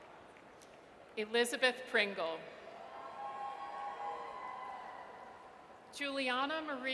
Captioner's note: audience cheers